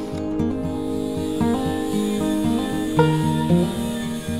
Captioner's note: grinder revving